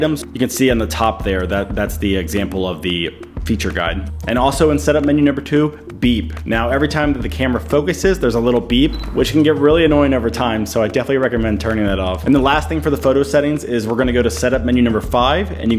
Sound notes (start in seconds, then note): 8.9 camera beeps